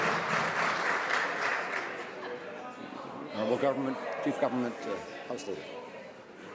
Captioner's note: some Applause